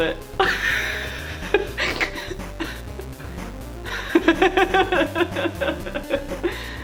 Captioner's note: laughs